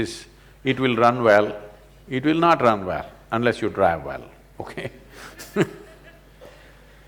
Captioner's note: laughs